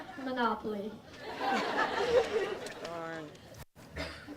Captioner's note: audience laughs